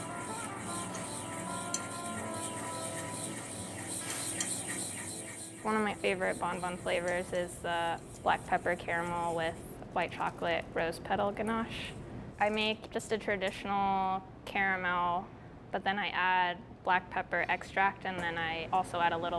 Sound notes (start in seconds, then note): 1.1 whisking